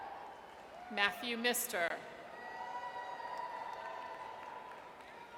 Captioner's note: audience cheers